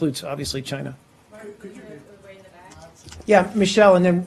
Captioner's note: reporters chattering